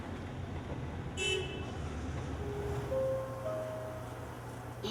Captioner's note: car honks